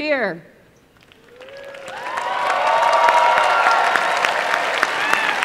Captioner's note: applause and cheering